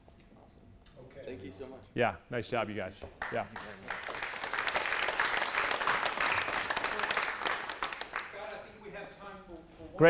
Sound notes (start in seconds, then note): 3.2 applause